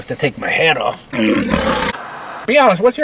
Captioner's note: lion roaring